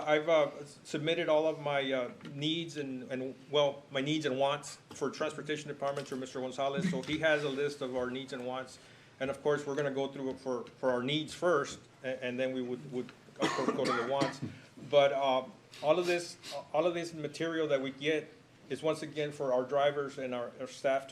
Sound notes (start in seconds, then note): 13.4 cough